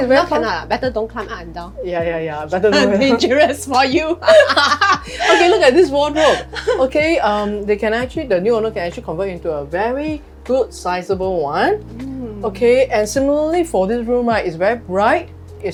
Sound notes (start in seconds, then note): 4.2 both laugh